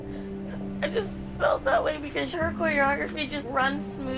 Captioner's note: sobs